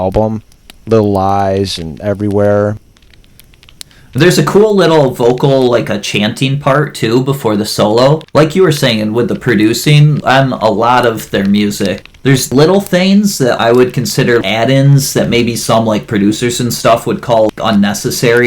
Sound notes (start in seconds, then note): none